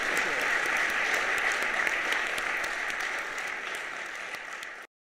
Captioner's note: audience applauding